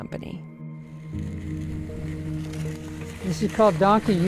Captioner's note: sled scraping